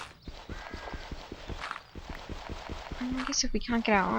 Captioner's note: gritty digging noises